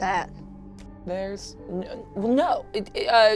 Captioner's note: stuttering